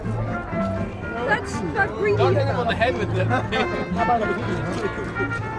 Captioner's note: indistinct chatter